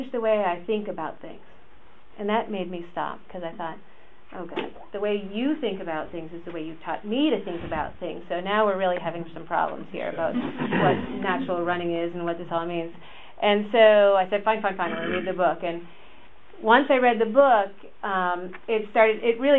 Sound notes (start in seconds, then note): 14.5 audience laughs